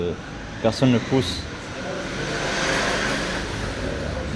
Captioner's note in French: Une voiture passe au loin